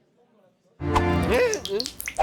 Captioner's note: water dripping